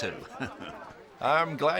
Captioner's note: Aviner laughing